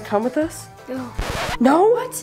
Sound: record scratching

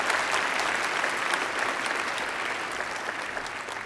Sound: applause

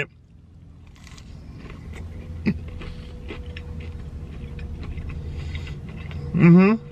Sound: crunching

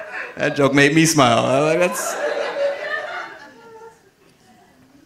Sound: audience laughing

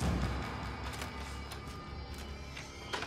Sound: ominous music; door opens

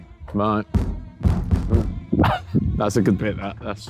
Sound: banging on door

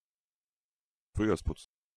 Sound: fast Pronunciation

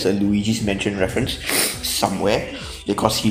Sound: snifff

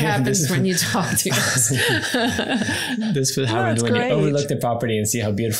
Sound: everyone laughs

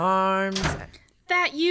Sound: sound door closing

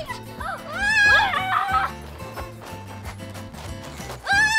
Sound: screaming

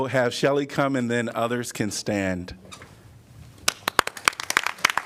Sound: applause

